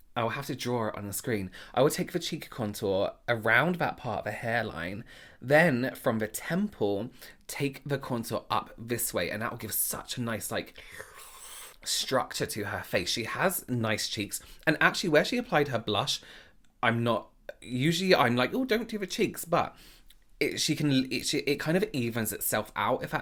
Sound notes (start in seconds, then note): 10.8 sucking